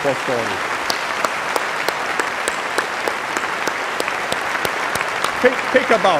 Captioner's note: applause